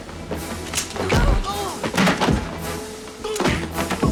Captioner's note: grunts